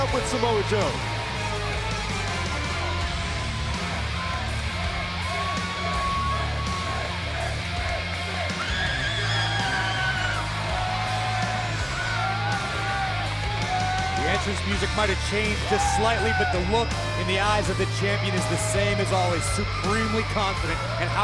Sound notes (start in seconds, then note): 2.0 crowd chatter